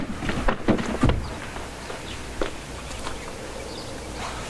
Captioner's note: footsteps crunching; birds chirping